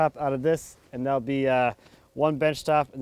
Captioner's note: none